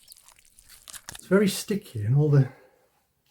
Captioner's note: sloppy squelch